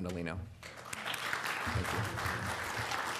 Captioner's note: applause